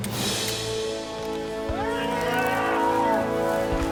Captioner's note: shouting